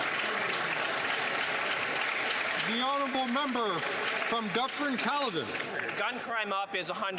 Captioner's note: some Applause